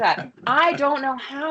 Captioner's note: laughs